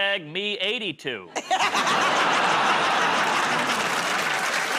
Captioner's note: laughter; applause